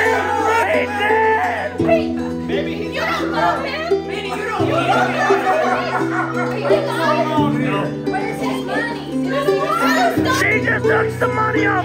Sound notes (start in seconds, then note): 2.0 all shout